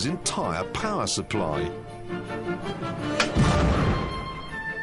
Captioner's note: thud